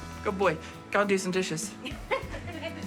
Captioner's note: laughter